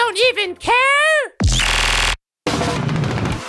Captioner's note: laser sounds